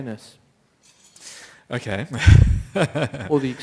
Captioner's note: laughter